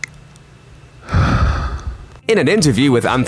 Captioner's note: breathing